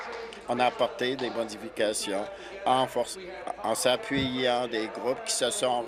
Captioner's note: applause